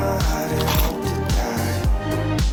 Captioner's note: metal pieces noises; gentle music continues